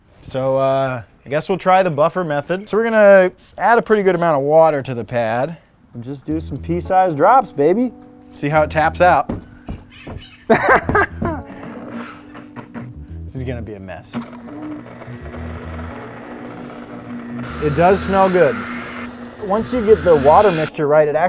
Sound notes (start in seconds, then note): 10.5 laughs; 14.2 buffer whirring